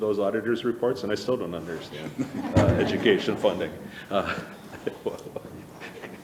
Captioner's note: laughs